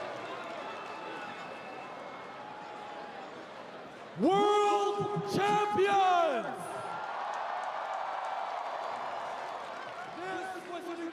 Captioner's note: cheering; applause